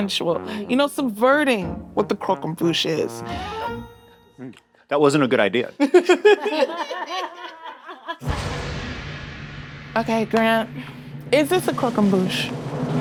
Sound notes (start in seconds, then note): 5.8 all laughing